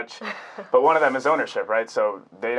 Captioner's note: laughing